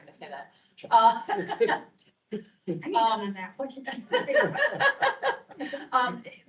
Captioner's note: indistinct chatter; members laughing